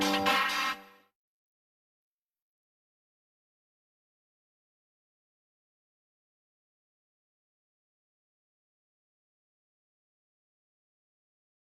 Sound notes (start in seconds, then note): 2.0 silence